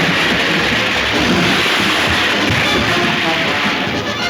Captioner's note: wagon crashing; water splashing; hooves thundering